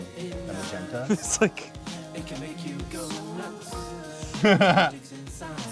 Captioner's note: chuckling; laughing